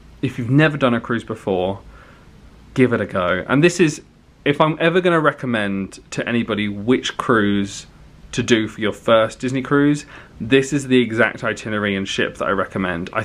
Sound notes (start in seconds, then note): none